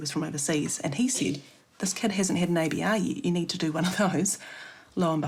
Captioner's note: chuckles